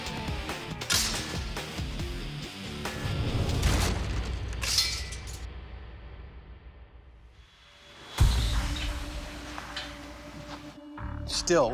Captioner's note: ropes snapping